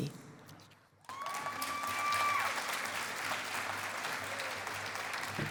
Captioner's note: cheering and applause